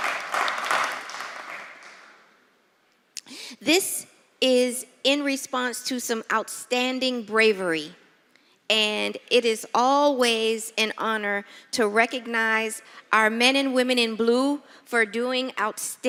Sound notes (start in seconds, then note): 0.0 applause